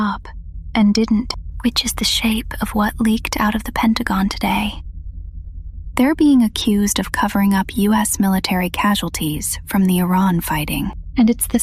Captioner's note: whispers